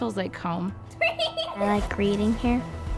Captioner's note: child laughing